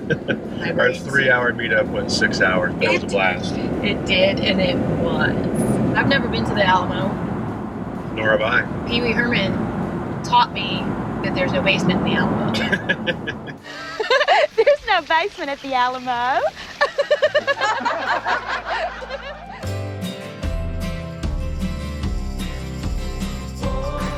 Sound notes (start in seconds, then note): 16.6 crowd laughing; 20.9 soft country music